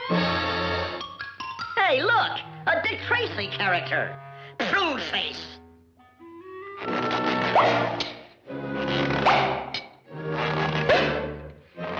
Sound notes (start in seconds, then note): 0.3 dramatic music; 7.0 cigarette pops; 9.2 face popping